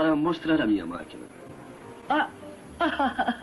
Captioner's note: laughs